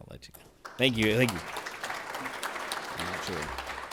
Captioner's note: audience applauding